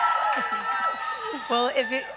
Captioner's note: crowd cheers